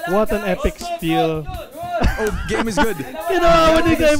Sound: laughing

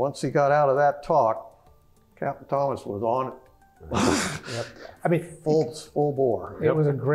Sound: laugh

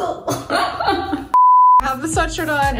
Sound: laughs; beep

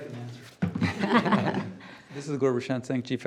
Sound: group laughing

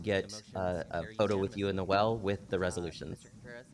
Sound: pounding of gavel

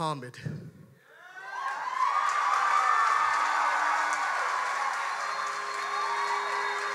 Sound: audience cheers and applauds

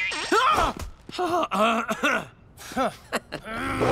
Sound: screams; clears throat; chuckles; growls

